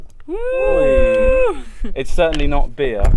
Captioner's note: cheering